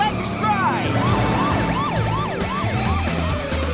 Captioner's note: sirens wailing